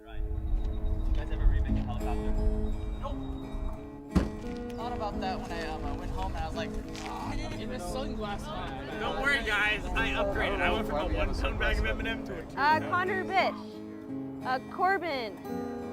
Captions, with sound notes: (gentle guitar music) (students chattering) - Connor Bish, Corbin